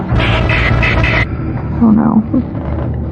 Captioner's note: whimpm